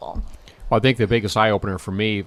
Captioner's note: voiceover